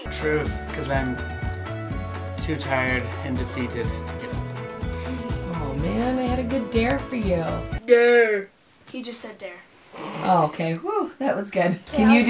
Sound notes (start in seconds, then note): 7.6 imitating dad